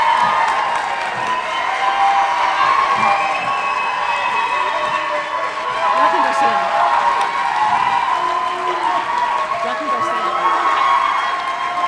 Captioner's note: cheers and applause